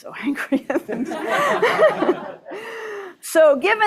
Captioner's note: laughter